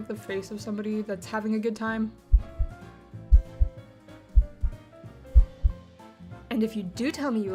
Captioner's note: heartbeat getting louder